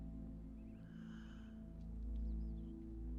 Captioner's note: gasping